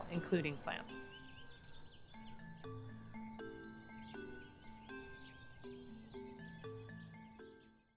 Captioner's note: curious music; birds chirping